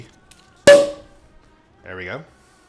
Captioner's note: cork popping